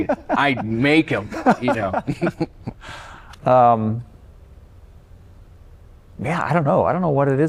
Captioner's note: laughter